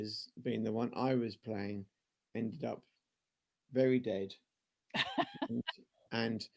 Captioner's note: laughter